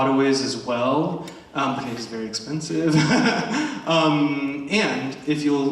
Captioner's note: chuckles